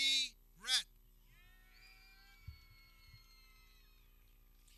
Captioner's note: people cheering